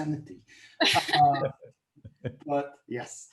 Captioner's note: all laughing